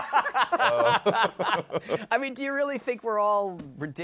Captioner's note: laughter